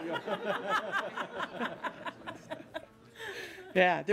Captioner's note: laughter